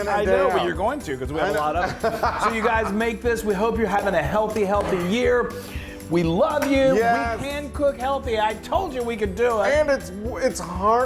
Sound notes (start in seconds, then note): 1.7 laugh